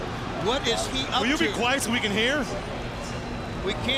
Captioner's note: crowd chatter